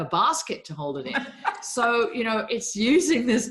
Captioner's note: laughing